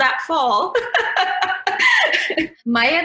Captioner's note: laughs